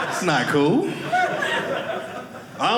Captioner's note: audience laughing